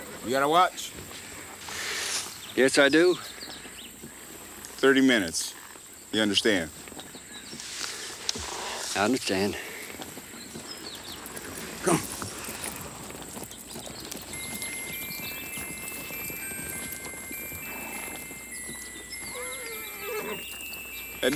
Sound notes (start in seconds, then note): 13.3 pocket watch chimes melodically; 19.2 horse neighs